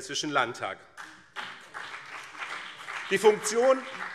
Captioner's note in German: Beifall BÜNDNIS 90/DIE GRÜNEN und CDU